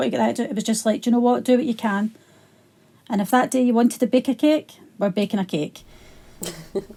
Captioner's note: laughs